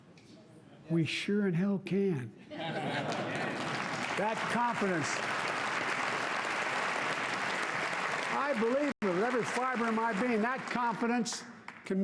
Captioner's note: applause